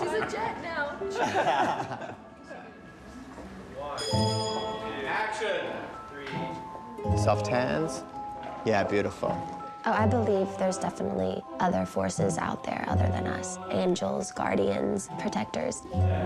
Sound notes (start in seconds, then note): 0.0 laughter; 4.0 bell ringing